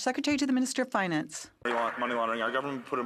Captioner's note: some Applause